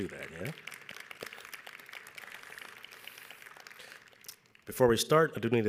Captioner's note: audience applauds